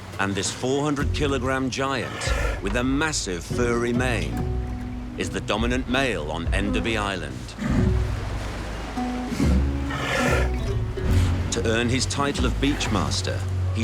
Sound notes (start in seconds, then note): 9.6 sea lion grunting